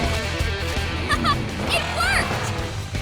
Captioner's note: laughing